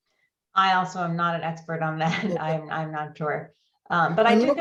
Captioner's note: laughs